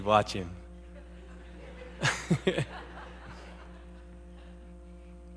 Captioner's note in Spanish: Risas